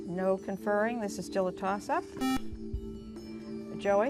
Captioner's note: buzzer